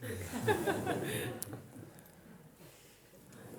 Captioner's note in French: rires